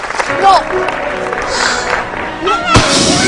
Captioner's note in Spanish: aplausos